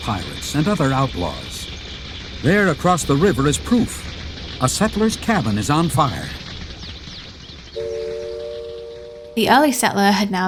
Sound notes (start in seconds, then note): 9.3 train whistle